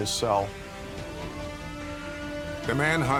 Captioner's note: siren wailing